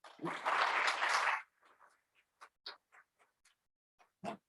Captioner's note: audience clapping